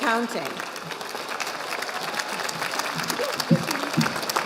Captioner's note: audience applauding